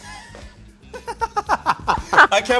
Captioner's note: laughing